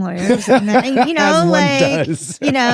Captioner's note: Baratunde laughing